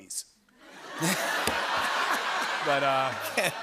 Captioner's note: laughter